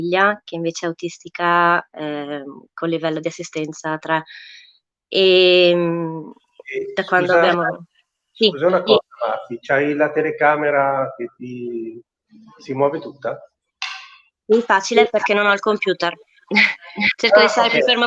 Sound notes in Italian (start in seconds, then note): 4.5 voce fuori schermo